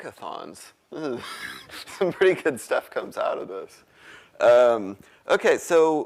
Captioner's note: laugh